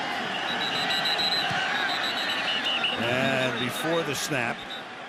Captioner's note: whistle